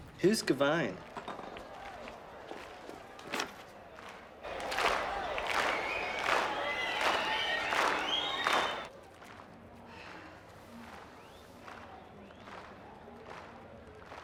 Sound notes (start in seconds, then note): 4.4 clapping rhythmically